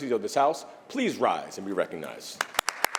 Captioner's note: applause